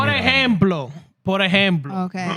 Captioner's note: speaking Spanish